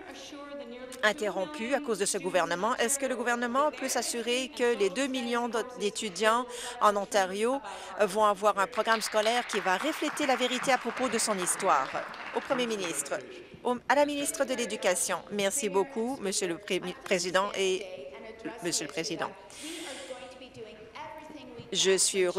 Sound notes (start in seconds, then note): 12.2 applause